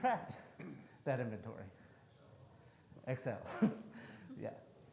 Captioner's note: chuckles